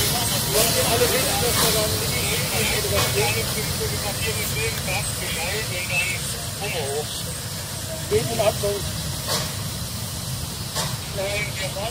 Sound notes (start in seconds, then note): 4.0 voice radio